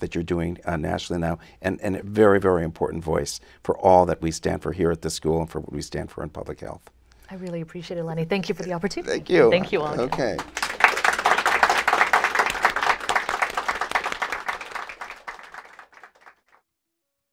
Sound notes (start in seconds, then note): 9.5 applause